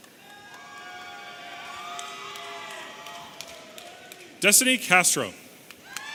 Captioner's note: audience applauding and cheering